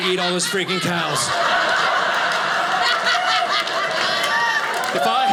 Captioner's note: audience laughing